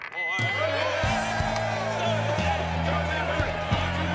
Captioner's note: people chanting